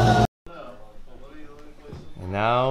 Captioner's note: background chatter